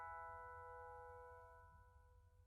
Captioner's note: gentle chimes